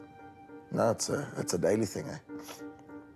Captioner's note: sniffs